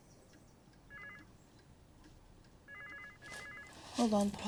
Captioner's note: phone ringing